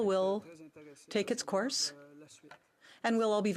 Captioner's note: speaking in french